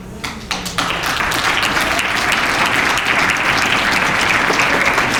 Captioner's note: applause